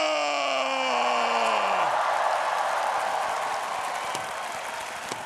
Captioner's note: audience cheering